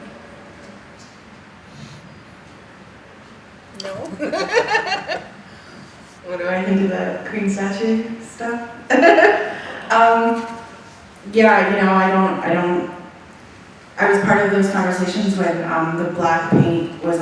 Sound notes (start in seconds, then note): 3.8 laughing